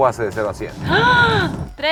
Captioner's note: gasps